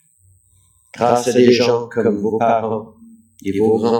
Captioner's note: french